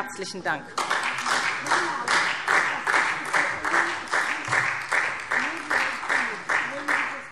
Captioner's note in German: Beifall SPD